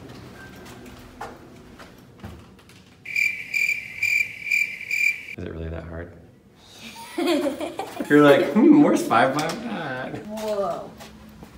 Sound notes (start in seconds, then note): 3.0 crickets chirping; 6.8 laughing